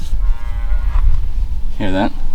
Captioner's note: cow moos